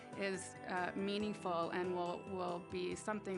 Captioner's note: none